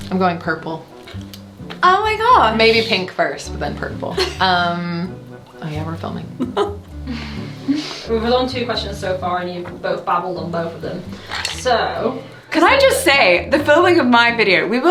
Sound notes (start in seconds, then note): 6.3 laughing